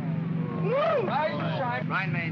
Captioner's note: men grumble